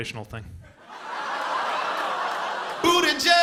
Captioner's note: laughter